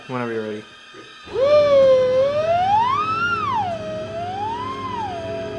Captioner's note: high-pitched squealing